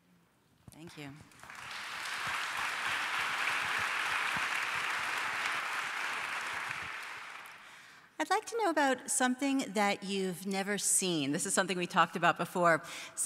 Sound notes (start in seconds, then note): 1.2 applause